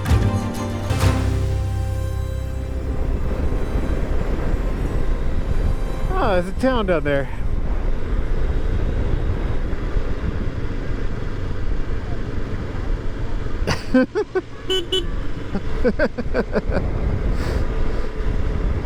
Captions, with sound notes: Oh, there's a town down there [beep beep!] [Laughs]